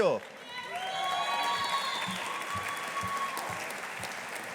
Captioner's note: audience applauding